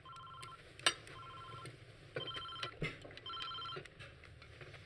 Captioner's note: cell phone ringing